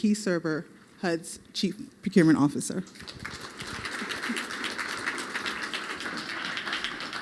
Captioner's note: applause